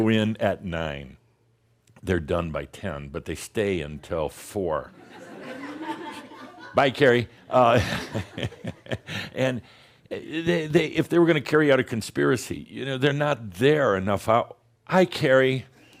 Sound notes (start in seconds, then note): 7.6 more chuckles; 7.6 chuckles